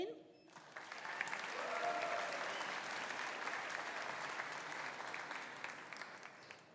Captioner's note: audience applauding; audience cheering